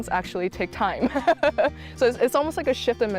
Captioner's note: laughs